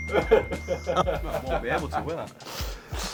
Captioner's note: laughing